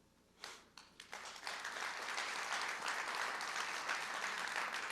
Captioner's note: crowd cheering